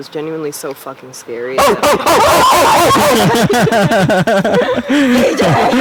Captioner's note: laughing; screaming